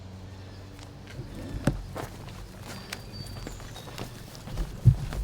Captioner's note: canto de pájaros